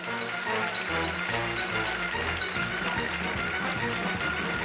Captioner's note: applause